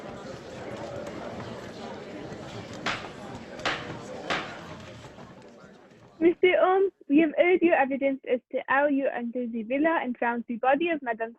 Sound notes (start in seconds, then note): 0.0 chatter of voices; 2.7 raps of gavel